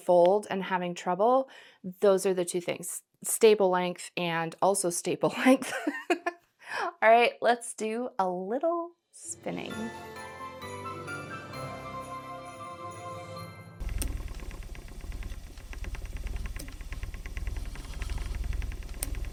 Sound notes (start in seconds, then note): 13.8 spinning Wheel Sounds